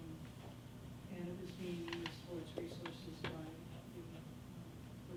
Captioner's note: faintly speaking